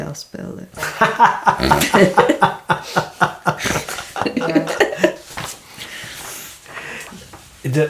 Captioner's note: laughter